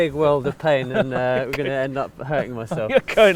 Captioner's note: laughs